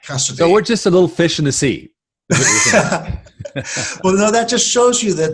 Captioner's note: laughing